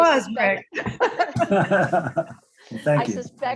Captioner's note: everyone chuckles